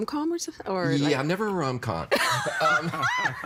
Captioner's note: laughing